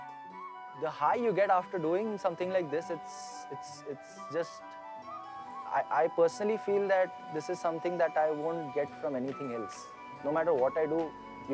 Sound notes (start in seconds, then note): none